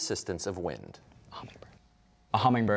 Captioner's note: whispering